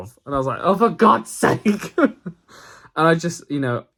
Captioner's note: laughs